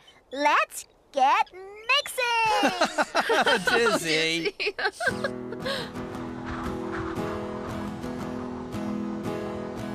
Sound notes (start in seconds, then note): 2.4 chuckling; 5.4 wind Blowing